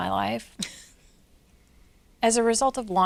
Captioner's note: laughs